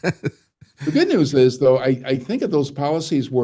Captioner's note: laughing